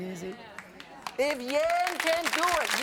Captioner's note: audience clapping